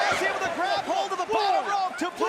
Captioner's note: crowd cheering